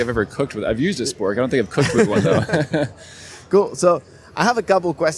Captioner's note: chuckle